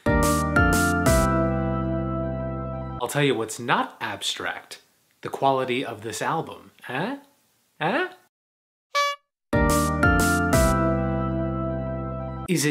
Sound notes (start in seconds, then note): 0.0 upbeat music plays; 8.9 clown horn toots; 9.5 upbeat music plays